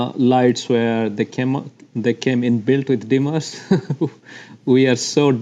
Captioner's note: laughs